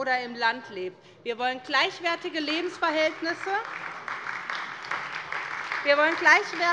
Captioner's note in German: Beifall bei der SPD